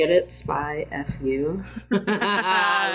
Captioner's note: laughs